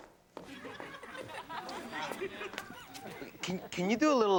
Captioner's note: audience laughs